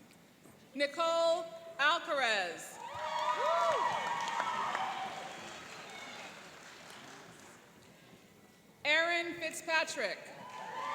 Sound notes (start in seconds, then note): 2.8 cheering and applauding